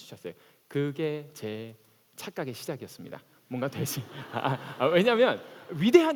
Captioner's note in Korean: 웃음